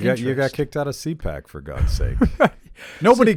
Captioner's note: laughs